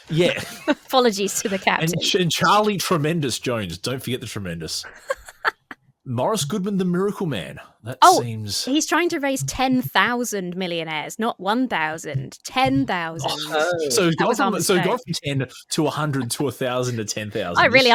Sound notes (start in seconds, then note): 4.8 laughs